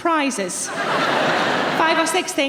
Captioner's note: audience laughing